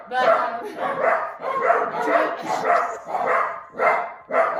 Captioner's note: dogs barking